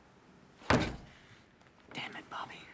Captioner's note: fist thudding